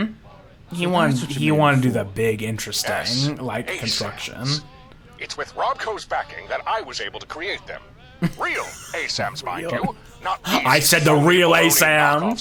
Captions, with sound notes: He wanted to do that big interesting like construction. (laughs) Real. I said the real ASAM.